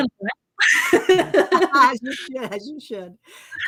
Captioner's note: laughing